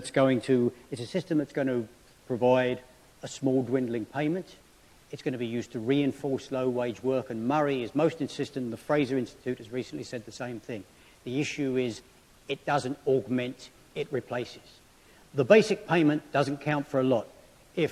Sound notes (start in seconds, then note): none